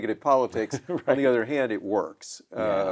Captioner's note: chuckles